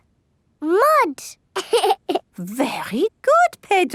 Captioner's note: laughs